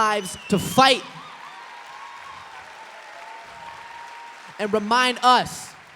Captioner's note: applause